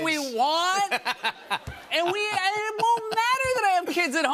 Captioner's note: laughter